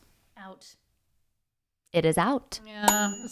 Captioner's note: bell dings